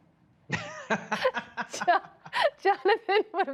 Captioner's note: laughter